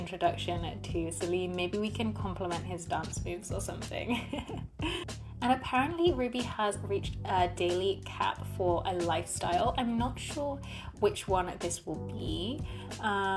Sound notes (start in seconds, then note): 4.1 laughs